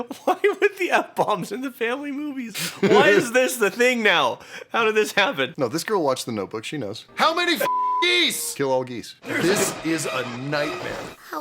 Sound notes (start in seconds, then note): 7.6 beeping